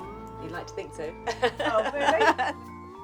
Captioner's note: laughs